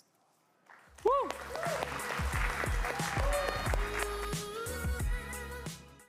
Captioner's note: crowd clamoring and clapping; funky music